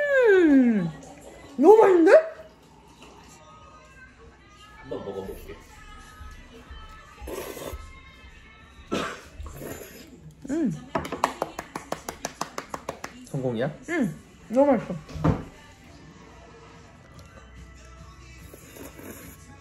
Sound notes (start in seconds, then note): 11.0 applause for seals